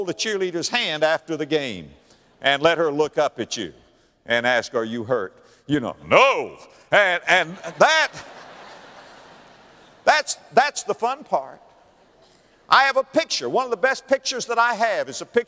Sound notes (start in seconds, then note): 7.3 audience laughter